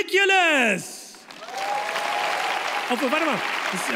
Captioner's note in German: Applaus